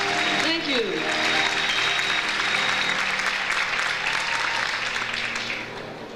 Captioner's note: audience applauds